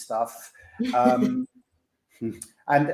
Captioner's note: giggles